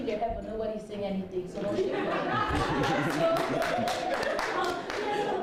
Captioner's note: laughter